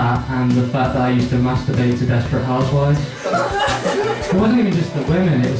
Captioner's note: laughter